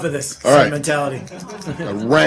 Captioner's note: laughter